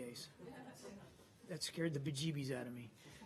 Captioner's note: laughter